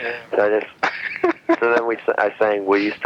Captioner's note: laughing